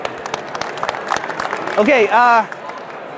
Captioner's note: clapping